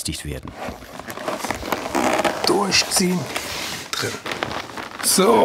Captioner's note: crunch